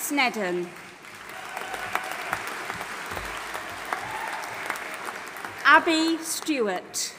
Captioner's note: audience applauding and cheering